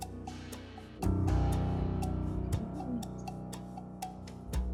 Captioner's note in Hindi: फुसफुसाते हुए